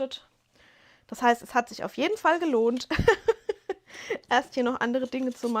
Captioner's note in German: gelächter